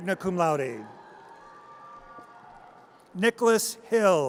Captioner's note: audience cheers